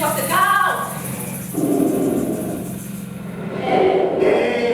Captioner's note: dogs growling